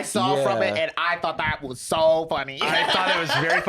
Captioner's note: laughs